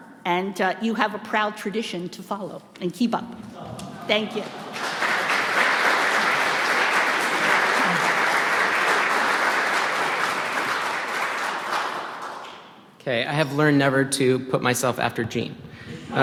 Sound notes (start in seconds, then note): 5.0 audience clapping